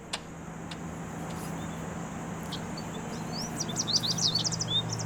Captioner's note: birds chriping